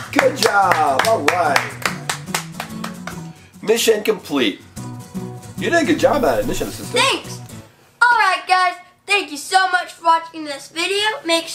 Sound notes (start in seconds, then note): 0.0 both applauding